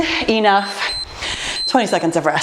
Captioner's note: timer beeps